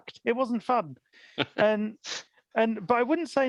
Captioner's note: laughs